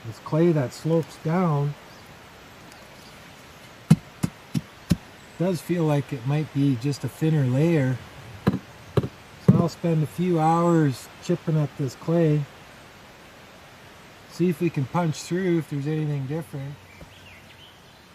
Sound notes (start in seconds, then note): 4.2 tap tap tap; 8.4 tap tap tap